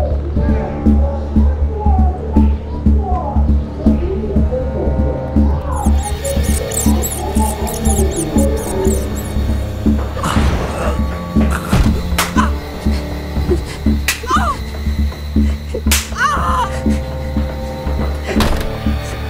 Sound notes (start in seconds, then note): 5.6 rat squeaking; 11.4 choking; 12.0 slapping; 14.1 woman groaning